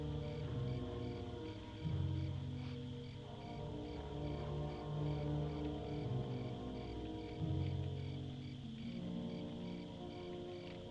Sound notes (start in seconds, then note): none